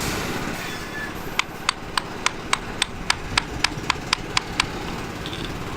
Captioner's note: hammer tapping